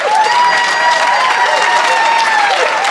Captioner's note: applause